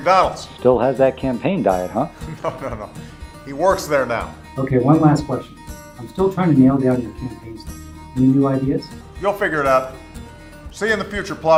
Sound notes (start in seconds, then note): 2.0 laughs